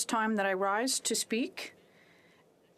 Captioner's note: speaking French